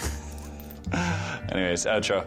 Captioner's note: laughing